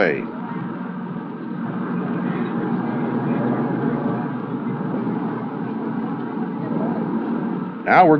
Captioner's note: bus engine sounds